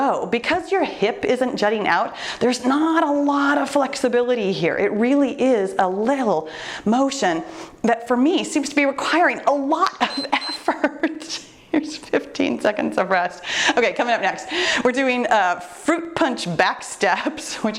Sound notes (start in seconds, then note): 10.0 timer beeps; 10.0 laughing